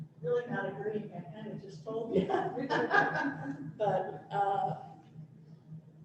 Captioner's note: laughter